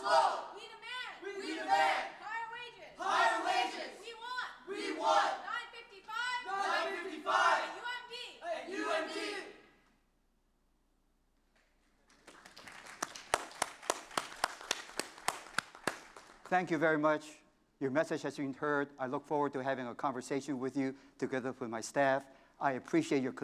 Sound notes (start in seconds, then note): 11.6 applause